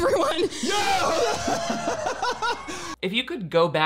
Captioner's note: laughs